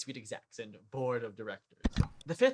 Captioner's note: click